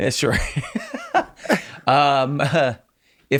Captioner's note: laughs